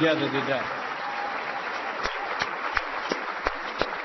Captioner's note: applause